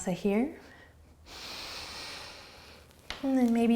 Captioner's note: breathing